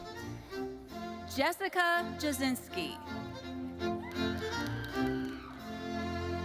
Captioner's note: audience cheering